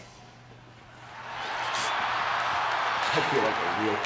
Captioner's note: audience laughing